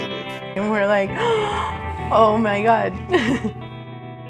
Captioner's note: gasps; giggles